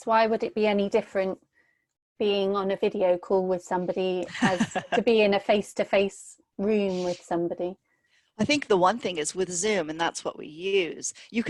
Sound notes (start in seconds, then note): 4.3 laughs